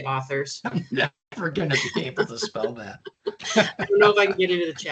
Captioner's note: both chuckling